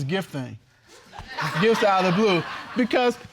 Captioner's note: spectators laughs